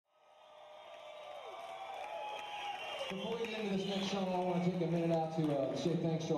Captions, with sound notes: (audience cheering and applauding) - Before we get to this next song, I wanna take a minute out to say thanks